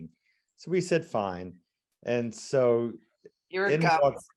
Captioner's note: speaking faintly